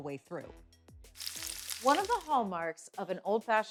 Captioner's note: oil sizzling